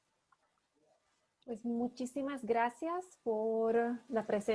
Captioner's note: speaking spanish